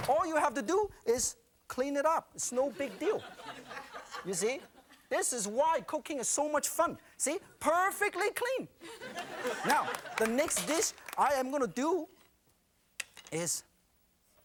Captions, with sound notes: All you have to do is clean it up, it's no big deal, you see. This is why cooking is so much fun, see? Perfectly clean. (audience laughing) Now, the next dish I am gonna do is,